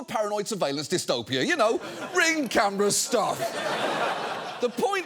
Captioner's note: studio audience laughing